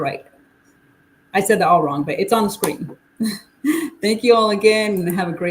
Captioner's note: chuckles